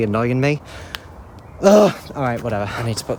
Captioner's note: shouts